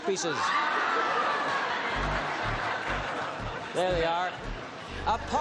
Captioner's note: laughter